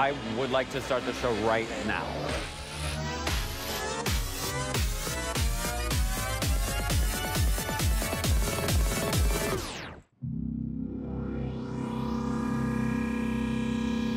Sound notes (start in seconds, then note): 2.5 audio warbling; 2.5 upbeat music; 10.8 audio humming